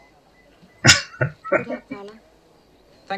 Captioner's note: chuckling